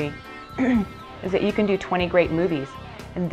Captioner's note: clearing throat